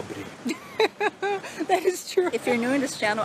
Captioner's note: laughs